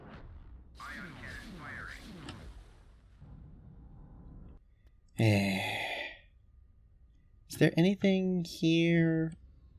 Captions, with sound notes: *sigh* is there anything here...?